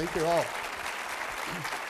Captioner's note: audience applauding